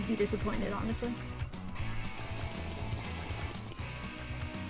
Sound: Minecraft water drinking noise

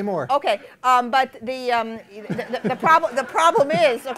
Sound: laughter

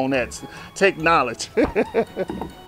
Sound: laughs

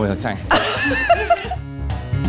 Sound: upbeat music; laughs

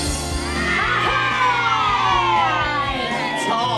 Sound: children cheer

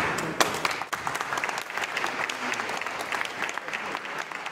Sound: applause

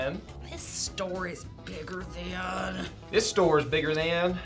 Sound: growling

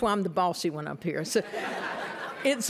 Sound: laughter

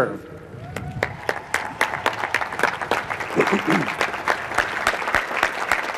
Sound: clapping

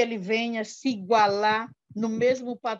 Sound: foreign language

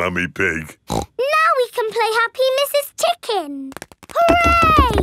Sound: snorts

